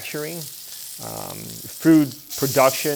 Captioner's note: pan sizzling